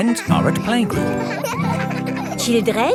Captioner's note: children laughing